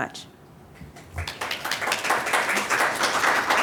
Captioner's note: applause